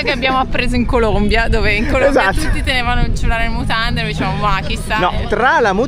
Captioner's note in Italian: risate